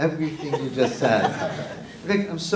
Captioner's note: audience laughing